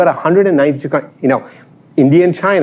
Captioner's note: none